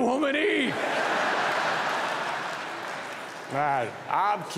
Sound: audience laughing

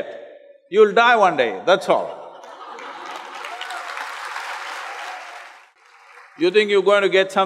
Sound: laughter/Applause

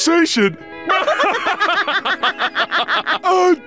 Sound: laughing

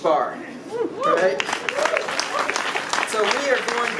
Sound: applause

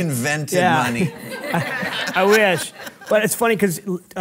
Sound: audience laughing

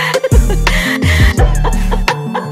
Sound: gasp

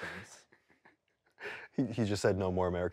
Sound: laughs

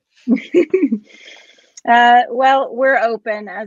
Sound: chuckles

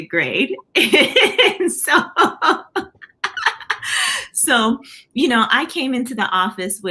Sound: laughter

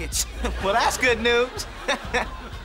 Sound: chuckles

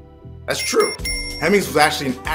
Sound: bell dings

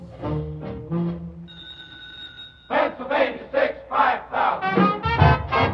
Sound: telephone rings

